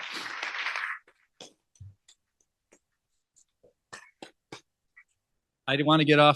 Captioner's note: applause